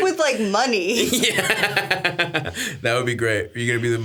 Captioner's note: Stavros laughs